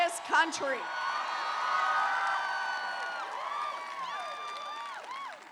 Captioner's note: applause